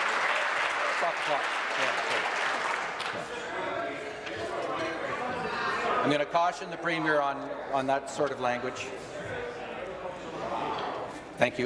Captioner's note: applause